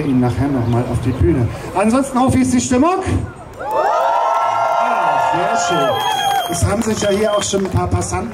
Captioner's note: cheers